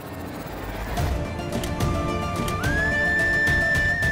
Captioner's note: car door opens